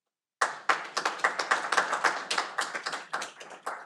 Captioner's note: audience applauding